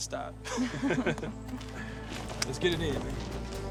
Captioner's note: both laugh